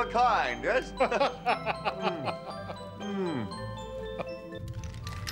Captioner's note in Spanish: Xax y Zadrim riendo